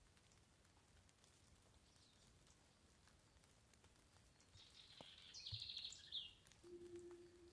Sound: forest ambient sounds with birds chirping in distance

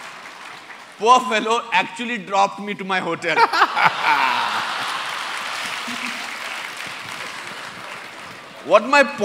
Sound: laughter

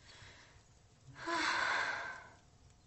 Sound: stella sighs

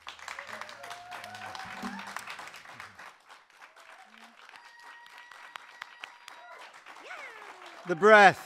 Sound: applause

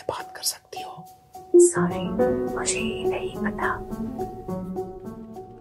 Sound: whispers

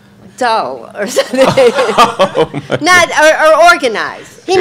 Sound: audience laughs

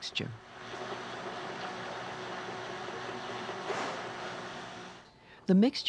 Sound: mixer motor whirrs

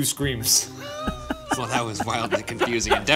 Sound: laughing

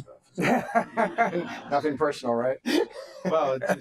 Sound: laughter

